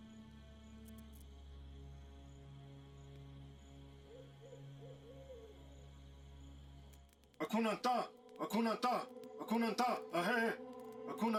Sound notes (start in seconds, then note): 4.8 owl hotting; 7.3 speaking in foreign language